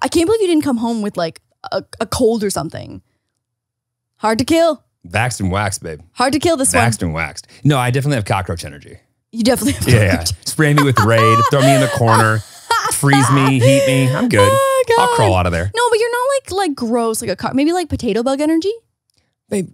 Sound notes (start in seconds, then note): 10.6 laughs